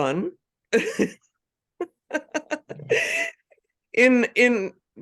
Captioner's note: laughing